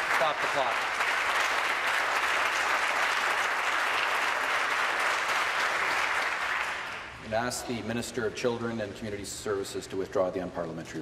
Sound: applause

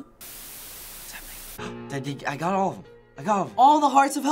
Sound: gasping

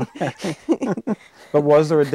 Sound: chuckling

